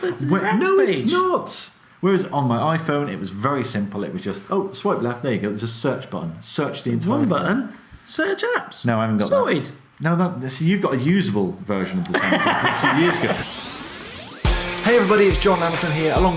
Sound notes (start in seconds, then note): 12.0 laughs